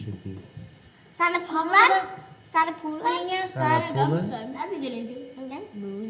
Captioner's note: children speak in CHamoru